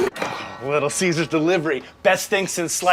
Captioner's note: doorbell rings